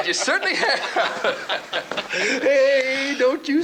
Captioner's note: both laughing